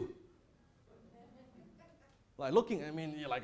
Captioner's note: audience laughs